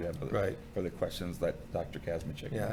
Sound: none

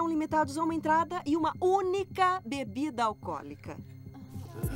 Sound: grumbling

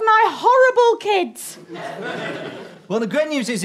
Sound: audience laughter

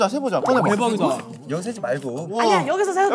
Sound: murmuring

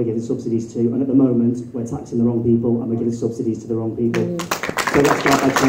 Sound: applause

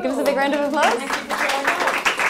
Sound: crowd applause

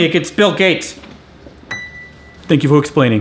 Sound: ding

